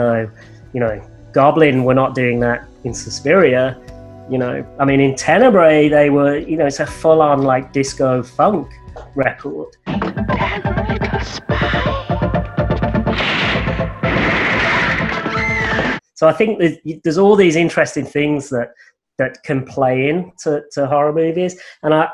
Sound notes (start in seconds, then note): 14.6 woman screaming